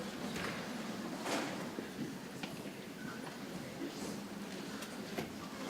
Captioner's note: people chattering softly